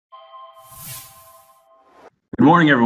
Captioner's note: logo sound